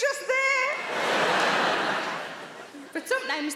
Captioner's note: audience laughing